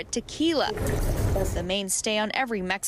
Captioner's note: speaking spanish